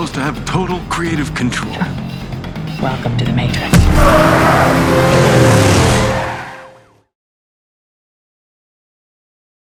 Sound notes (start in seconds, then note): 3.5 car engine revving; 3.8 upbeat ominous music